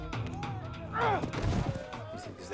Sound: grunting

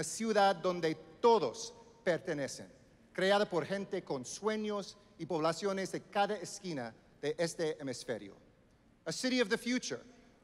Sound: speaking Spanish

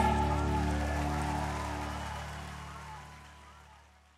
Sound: audience applauding

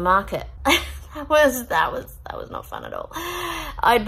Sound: scoffs

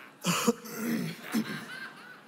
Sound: laughter

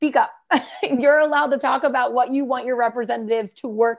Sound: laughter

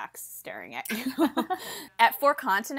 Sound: hosts laugh

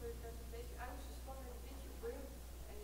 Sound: voiceover

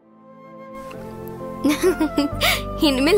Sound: laughs

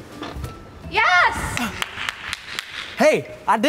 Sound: claps

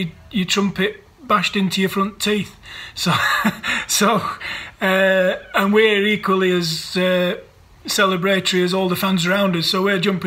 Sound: laughs

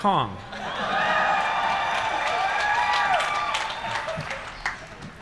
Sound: applause

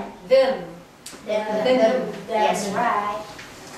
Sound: murmuring

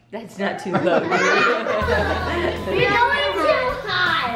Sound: laughing

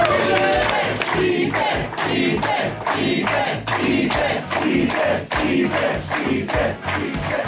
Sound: cheering; crowd

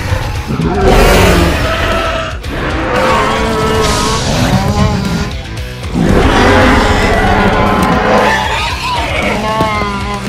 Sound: Bumpy moans; Indominus Rex growling and attacking

